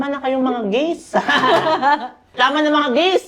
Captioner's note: laughs